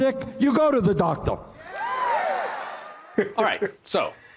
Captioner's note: cheers and applause